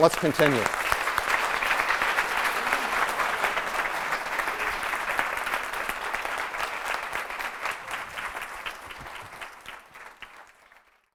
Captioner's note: applause